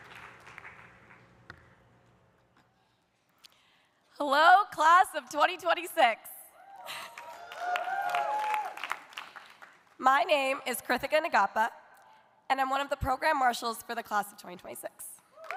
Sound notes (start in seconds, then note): 6.6 audience cheering; 6.8 audience applauding